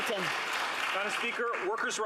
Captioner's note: some Applause